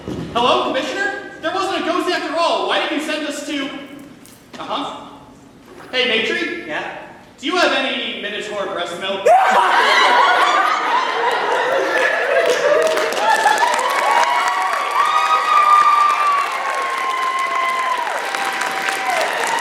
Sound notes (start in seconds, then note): 9.4 laughter; 13.7 applause